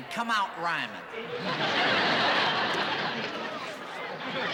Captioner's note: laughter